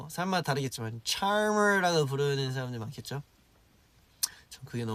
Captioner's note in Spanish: con un acento inglés diferente